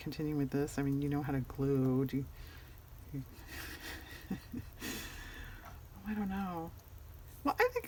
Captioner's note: laughs